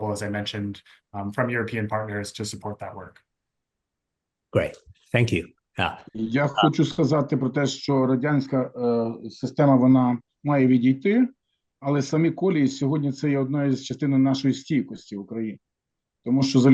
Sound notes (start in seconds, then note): 6.2 non-english speech